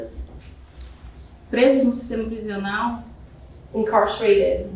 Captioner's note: speaking portuguese